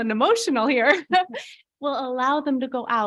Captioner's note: laughing